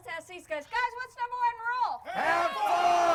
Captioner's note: crowd